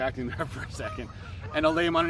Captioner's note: laughs